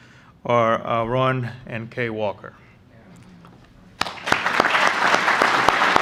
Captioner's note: applause